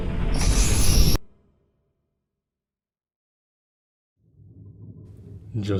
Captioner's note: noise ends